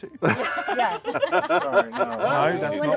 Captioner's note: laughter